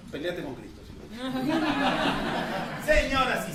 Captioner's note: laughter